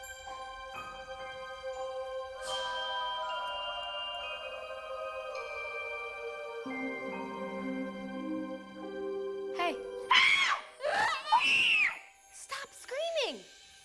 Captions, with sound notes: HEY. [SCREAMS] [MOCKS SCREAMING] [SCREAMS] STOP SCREAMING!